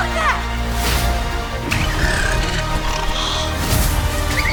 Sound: Chupa yelps; squeals cheerfully

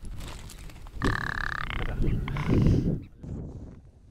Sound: a rock ptarmigan's call

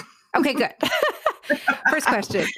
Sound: laughing

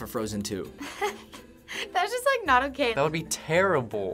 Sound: nervous chuckling

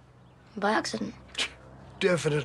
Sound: scoffs

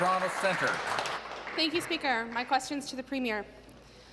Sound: applause

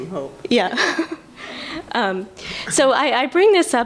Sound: laughter

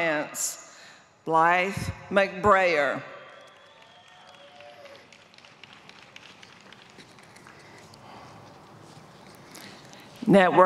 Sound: applause

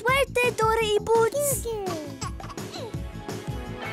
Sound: giggling

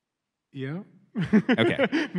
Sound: laughs

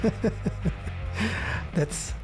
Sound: laughing

